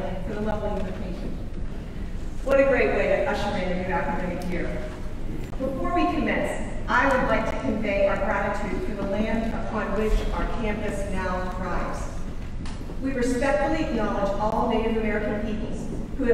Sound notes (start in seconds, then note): none